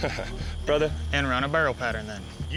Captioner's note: chuckling